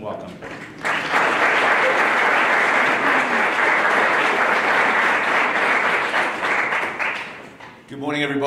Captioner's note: applause